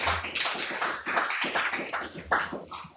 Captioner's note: applause